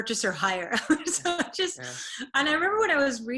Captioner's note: laughs